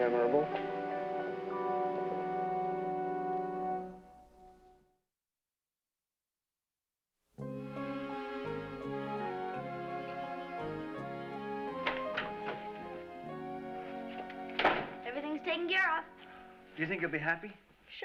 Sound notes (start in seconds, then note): 11.6 door Opens